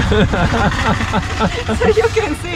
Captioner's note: laughing